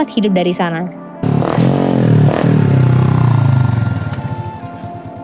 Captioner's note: sound of motorbike